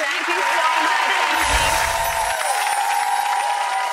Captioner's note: applause